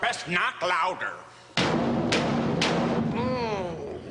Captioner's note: knocks very loud